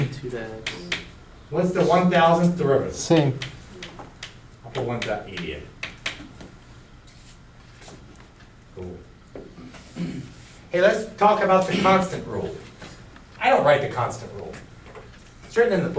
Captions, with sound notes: - [Voiceover] Same. - What's the 1,000th derivative? - [Voiceover] Same. - The one dot E to the x. Hey let's talk about the constant rule. I don't write the constant rule.